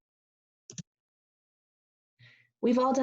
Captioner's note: pause